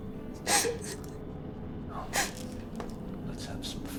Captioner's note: cat crying